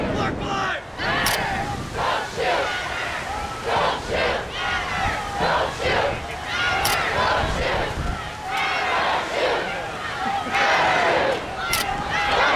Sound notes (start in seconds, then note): 0.9 crowd